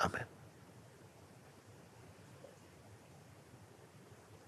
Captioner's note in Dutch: stilte